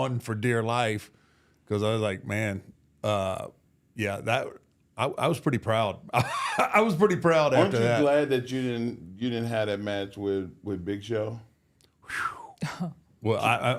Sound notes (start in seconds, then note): 6.0 laughs